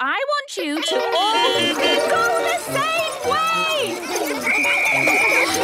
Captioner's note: beeping; whistle blowing